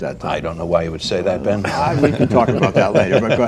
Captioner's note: scattered laughter